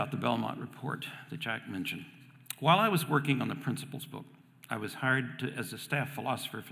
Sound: none

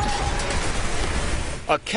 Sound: smash

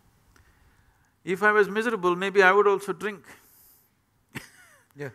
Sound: laughs

